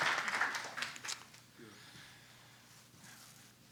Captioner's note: applause